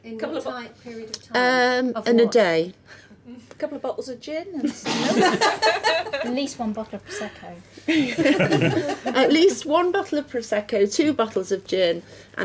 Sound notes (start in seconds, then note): 4.8 laughing